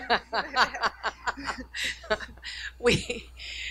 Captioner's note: laughing